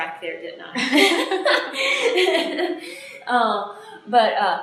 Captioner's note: laughter